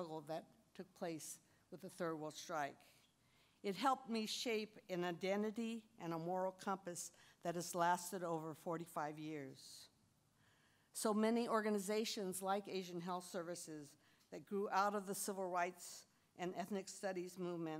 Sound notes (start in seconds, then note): none